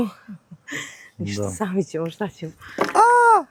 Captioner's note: laughs